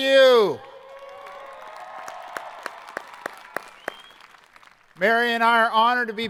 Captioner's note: students cheering